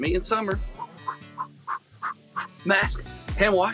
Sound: puffs air

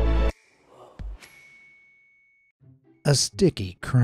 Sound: dramatic music; bell ringing

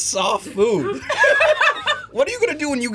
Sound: both laugh

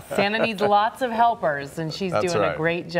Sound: laughs

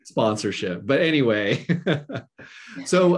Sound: chuckles

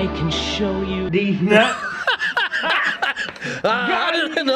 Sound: cracking up

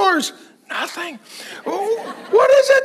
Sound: congregation laughing

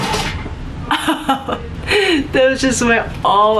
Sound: laughs

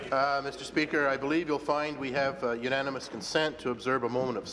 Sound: applause

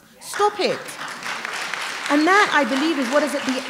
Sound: applause

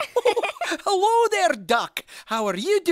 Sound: laugh

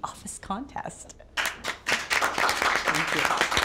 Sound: clapping

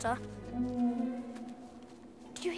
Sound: distant howling

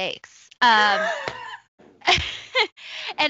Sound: laughs

